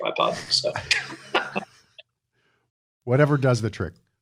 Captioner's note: laughter